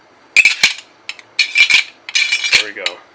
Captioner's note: clicks